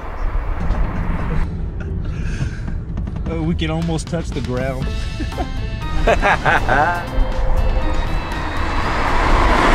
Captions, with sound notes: We can almost touch the ground. (laughing)